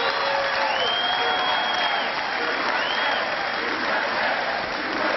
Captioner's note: cheering; chanting